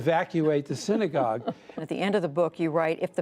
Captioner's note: laughter